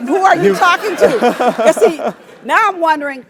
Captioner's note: laugh